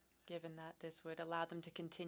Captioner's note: speaking French